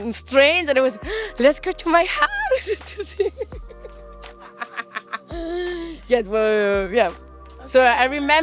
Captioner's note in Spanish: Ríe